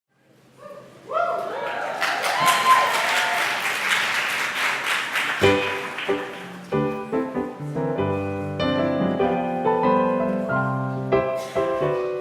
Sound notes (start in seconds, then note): 1.5 applause